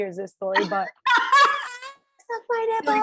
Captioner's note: laughing